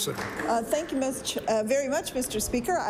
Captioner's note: applause